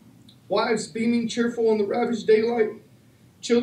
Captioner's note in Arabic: يتمتمن